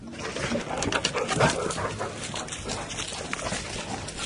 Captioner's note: dog's breathing